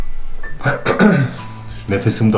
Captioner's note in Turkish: Öksürür